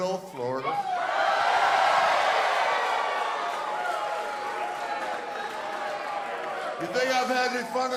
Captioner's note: crowd cheering